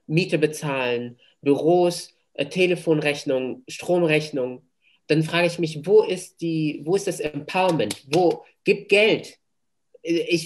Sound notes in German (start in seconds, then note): 7.5 klatscht in die Hände